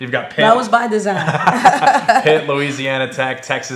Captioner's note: laughing